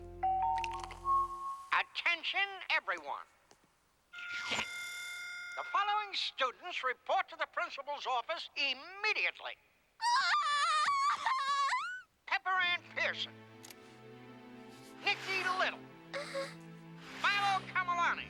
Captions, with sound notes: OR SO I THOUGHT. [ BELLS DING ] ATTENTION, EVERYONE. THE FOLLOWING STUDENTS REPORT TO THE PRINCIPAL'S OFFICE IMMEDIATELY -- AAH! PEPPER ANN PEARSON... NICKY LITTLE...